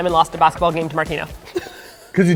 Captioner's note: laughs